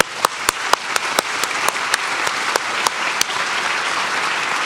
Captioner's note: applause